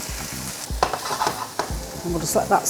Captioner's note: sizzle